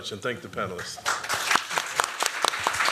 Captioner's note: applause